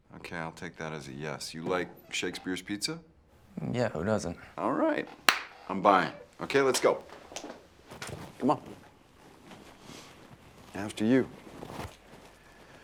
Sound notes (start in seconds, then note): 5.2 Jeff claps